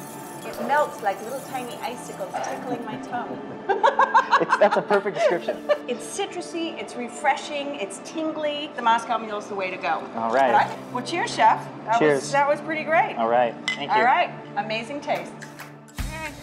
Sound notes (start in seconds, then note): 3.6 laughter